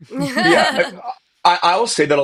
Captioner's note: laughing